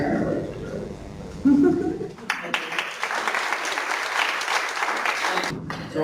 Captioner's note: clapping